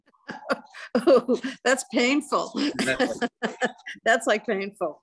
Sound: laughs

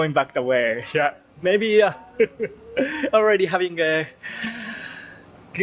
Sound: chuckle

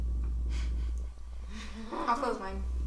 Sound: laughing

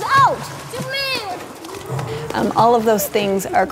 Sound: water splashing

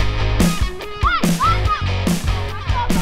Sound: players communicating

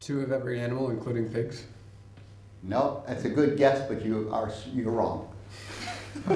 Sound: laughs

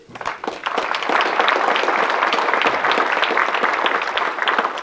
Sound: audience clapping

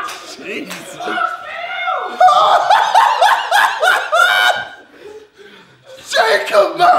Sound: audience laughing; laughing

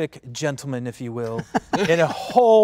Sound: all laughing

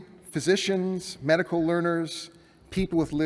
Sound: none

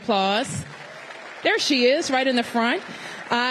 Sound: applause

